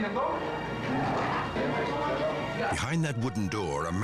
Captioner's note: officers speaking in foreign language